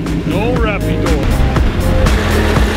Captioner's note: speaks foreign language; speaks in foreign language; intense techno music